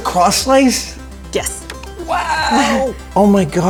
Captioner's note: chuckles